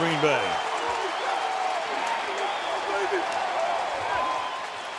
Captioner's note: cheering